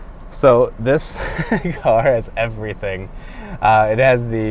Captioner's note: laughs